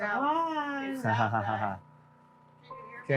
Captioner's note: softly laughing